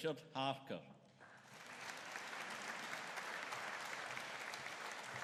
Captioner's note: audience applauding